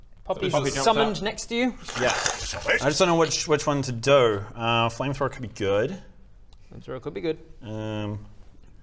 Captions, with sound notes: - Poppy's summoned next to you - Poppy jumps out *krshkshchkh* I just dunno which one to do err flamethrower could be good flamethrower could be good erm